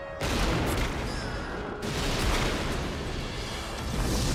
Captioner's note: gunshots